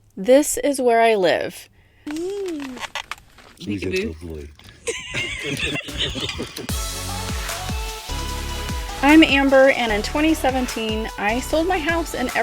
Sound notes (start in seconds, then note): 4.7 group laughing; 6.6 upbeat music